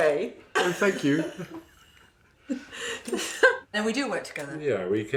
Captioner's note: laughing